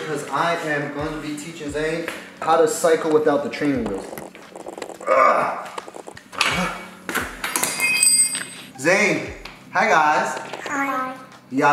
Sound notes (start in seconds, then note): 3.8 grunts; 7.1 tool hits the floor